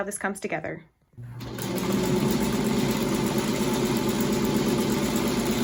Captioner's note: sewing machine whirring